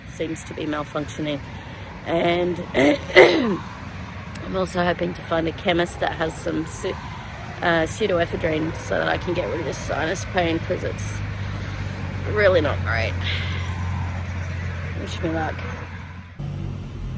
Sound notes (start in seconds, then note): 2.8 clears throat again; 11.3 breathes in sharply